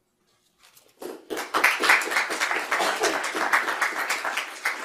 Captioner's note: audience applause